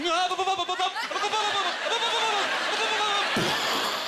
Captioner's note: audience laughter; stuttering fast; audience laughter